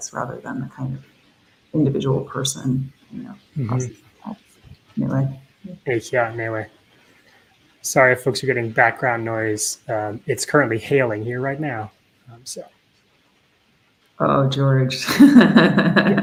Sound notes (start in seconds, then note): 5.3 Speaking Myaamian; 15.0 laughing